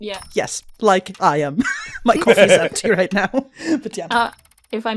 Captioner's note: laughs